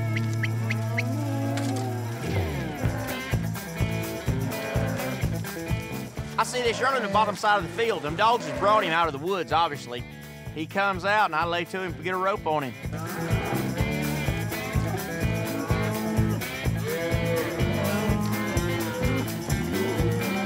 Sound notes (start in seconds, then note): 4.1 cow mooing